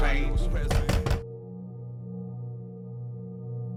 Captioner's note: fist knocking; subdued music